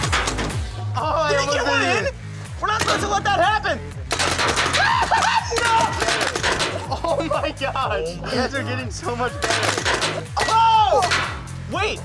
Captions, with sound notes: (car clatters) - Oh. - Did it get one in? We're not supposed to let that happen! (laughs) No! (paint balls hitting) - Oh my gosh. You guys are getting so much better. (track rattles) - Whoa!